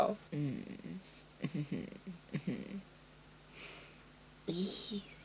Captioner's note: Geralt voice